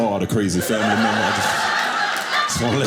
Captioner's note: audience laughing